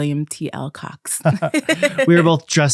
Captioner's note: laughing